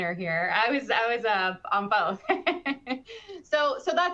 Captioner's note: laughing